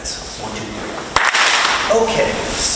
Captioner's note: group claps